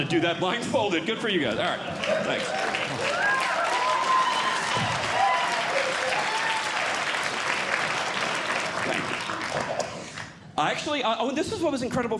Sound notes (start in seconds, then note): 2.0 audience Clapping; 4.0 audience Cheering